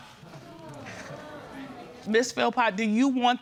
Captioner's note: crowd muttering